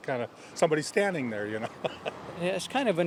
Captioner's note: laughs